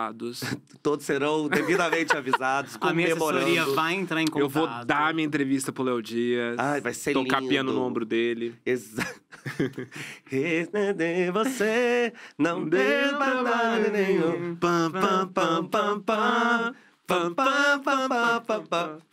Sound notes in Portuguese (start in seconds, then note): 8.9 risos; 11.3 cantarola; 13.2 todos cantarolam